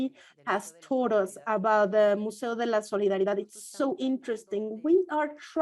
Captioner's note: foreign language